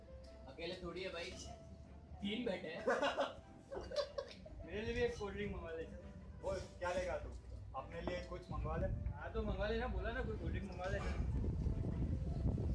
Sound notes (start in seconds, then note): 3.7 laughing